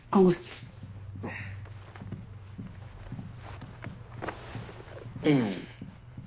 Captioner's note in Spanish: Quejidos